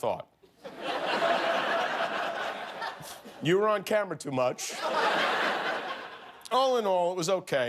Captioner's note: laughter